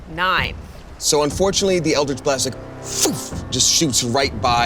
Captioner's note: sputters